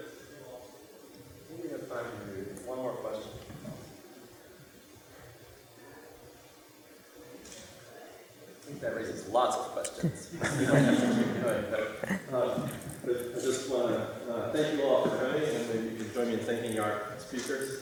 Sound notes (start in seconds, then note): 10.3 laughter